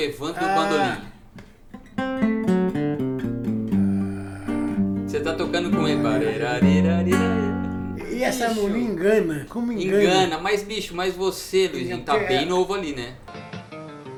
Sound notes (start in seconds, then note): 6.5 humming